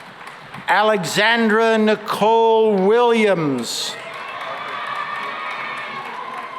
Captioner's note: cheering and applause